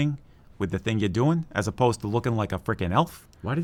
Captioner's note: in New Jersey accent